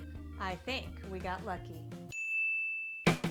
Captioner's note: ding